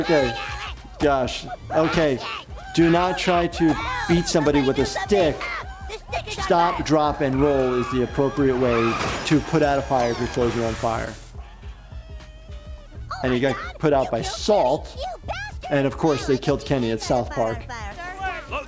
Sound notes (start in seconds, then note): 0.1 characters screaming; 7.7 tires screeching